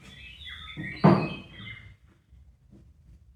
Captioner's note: table clunking